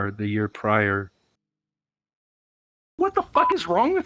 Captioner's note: silence